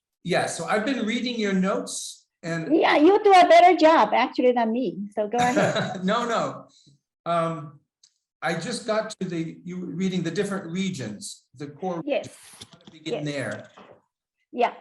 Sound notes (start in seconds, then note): 5.4 laughs